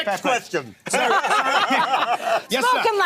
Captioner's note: laughing